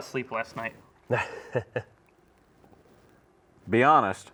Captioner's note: laughs